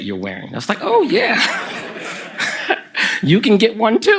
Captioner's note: laughter from the audience